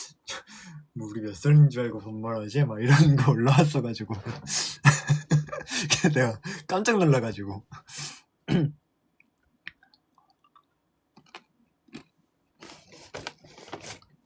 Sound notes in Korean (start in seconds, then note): 4.1 웃음; 8.5 목을 가다듬음